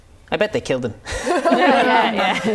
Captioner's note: laughing